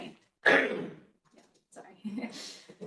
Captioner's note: participant coughs